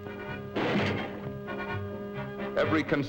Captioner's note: playful music; metal clanging